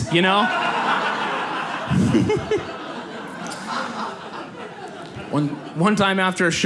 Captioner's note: audience laughs